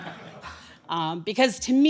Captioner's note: laughter